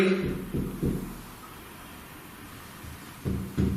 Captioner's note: thuds